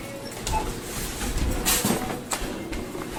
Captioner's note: cart rattling